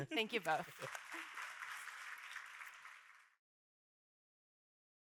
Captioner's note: audience applauds